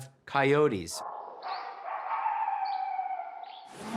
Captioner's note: barking; whooping sound